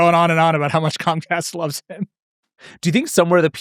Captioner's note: laughing